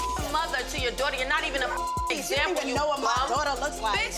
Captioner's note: beep